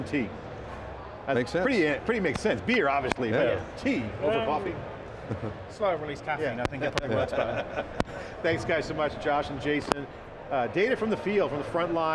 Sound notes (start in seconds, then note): 7.0 laughing